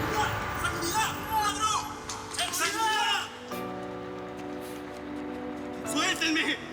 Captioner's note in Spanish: Gritos